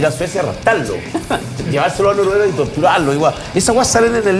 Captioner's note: laugh